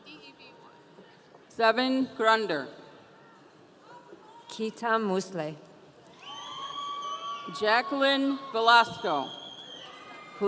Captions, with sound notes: - Zeven Grander. - Kitta Musley. (audience cheering) - Jacqueline Velasco.